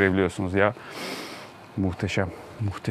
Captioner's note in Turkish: Derin bir nefes çekiş